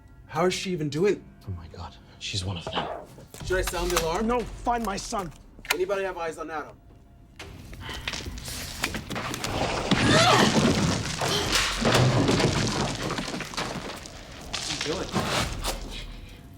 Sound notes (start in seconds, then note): 10.0 Yvonne grunting